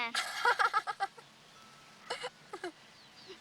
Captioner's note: laughs